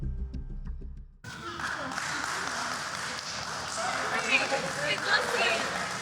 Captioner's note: applause